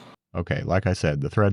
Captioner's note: machine whirring